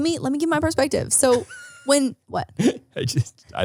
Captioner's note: laughing